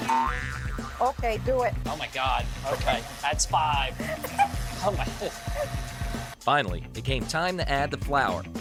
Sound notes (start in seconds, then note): 4.0 laughing